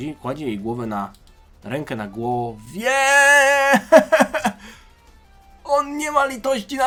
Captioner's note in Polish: śmiech